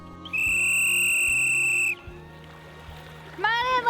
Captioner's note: whistle blows